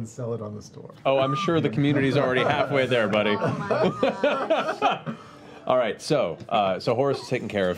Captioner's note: laughs